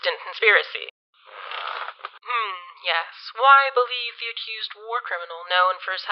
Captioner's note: bed creaking and mattress shifting